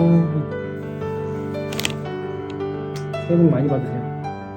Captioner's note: snap